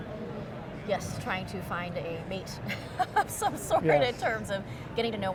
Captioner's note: laughs